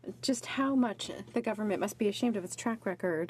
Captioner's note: speaking in French